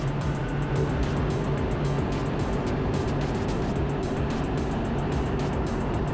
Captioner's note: energetic music; engine droning